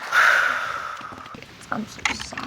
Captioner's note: exhales deeply